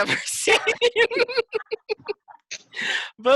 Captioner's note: laughing